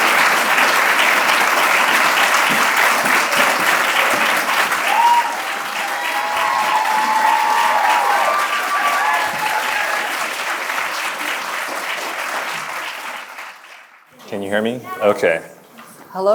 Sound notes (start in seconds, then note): 5.1 audience applauding; 5.1 audience cheering